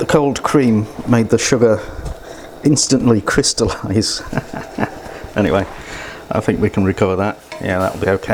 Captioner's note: laughs